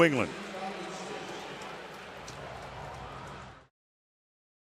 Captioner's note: pa announcement